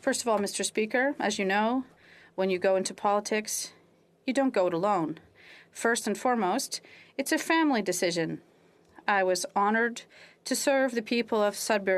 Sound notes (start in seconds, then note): 4.1 speaking French